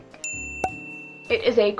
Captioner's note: ding